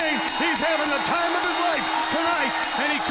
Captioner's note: bell ringing